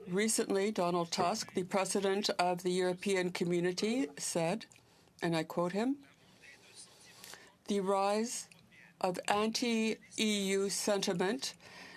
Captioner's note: speaking french